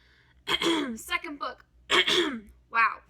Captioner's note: weird cough